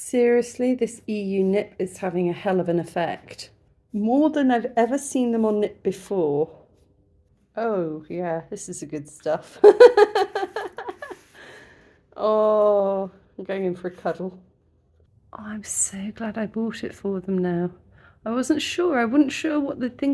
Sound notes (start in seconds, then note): 9.6 laughing